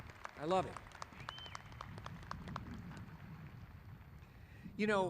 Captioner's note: applauding